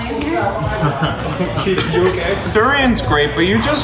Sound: laughs

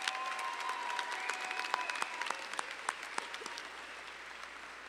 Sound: audience applauding

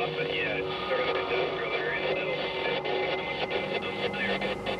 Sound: static

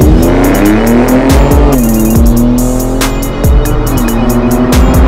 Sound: engines revving; upbeat music

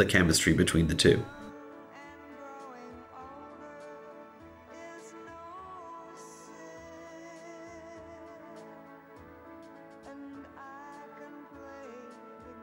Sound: silence

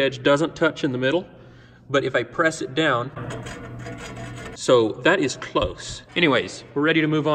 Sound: scraping sounds

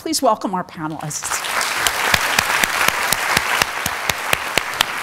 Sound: audience applauding

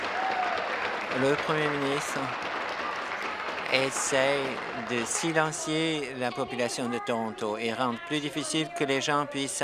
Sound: applause

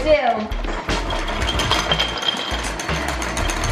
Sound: rattling

